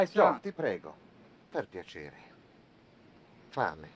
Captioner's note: speaking foreign language